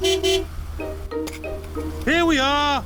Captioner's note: honks horn